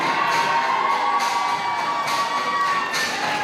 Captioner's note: applause